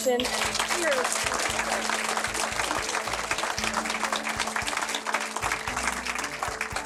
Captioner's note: crowd applauds